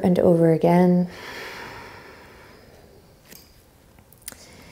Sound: exhaling strongly

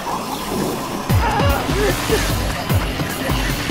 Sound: agonized groans

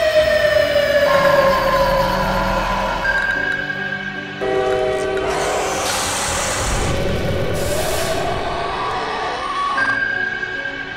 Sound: repeated series of monster sounds

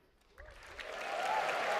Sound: cheers and applause

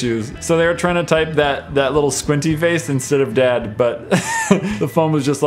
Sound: hehhe

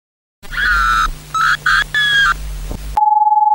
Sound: external horror screaming

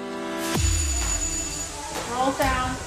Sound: bell rings

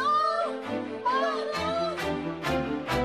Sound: shouting

